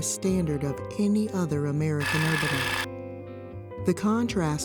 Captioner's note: reel whirring